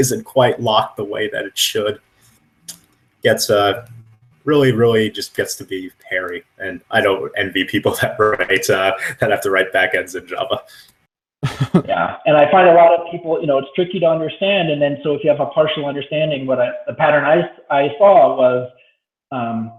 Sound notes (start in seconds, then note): 8.0 static; 11.4 laughs